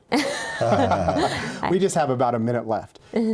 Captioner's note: laughs